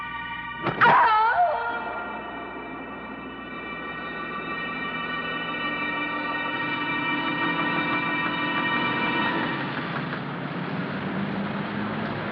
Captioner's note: yell